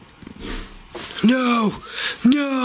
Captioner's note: metallic rattling